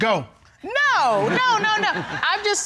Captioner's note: audience laughing